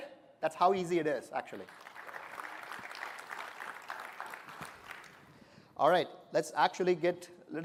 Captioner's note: applause